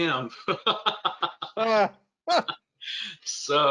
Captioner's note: both laugh